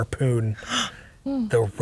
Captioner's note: gasps